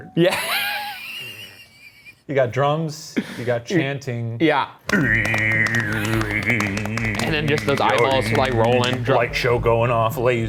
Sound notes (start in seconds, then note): 1.2 laughs; 4.8 imitates drumming